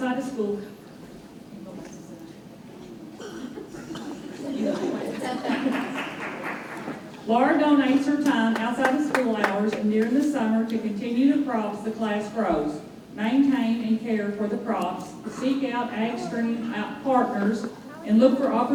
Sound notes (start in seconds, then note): 3.6 everyone chuckling